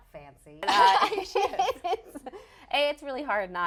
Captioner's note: laughing